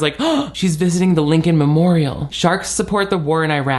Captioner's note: gasps